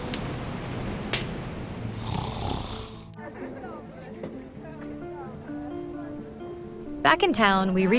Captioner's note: Jack snoring